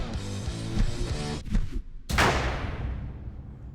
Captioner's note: slowed whirring; echoing thud